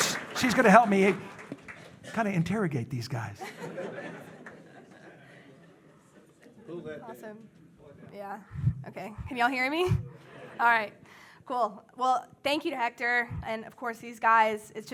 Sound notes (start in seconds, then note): 3.4 audience laughs